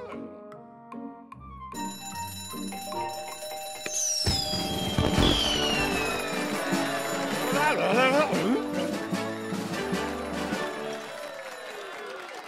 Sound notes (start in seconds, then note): 2.6 bell ringing